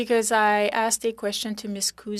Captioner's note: speaking French